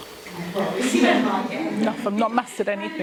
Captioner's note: laughing